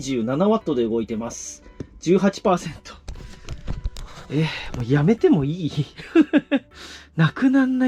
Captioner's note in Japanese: 笑い